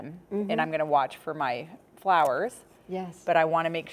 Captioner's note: shears clicking